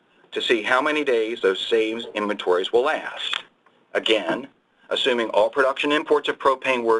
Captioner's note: pages turning